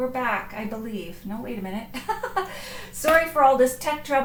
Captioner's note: laughs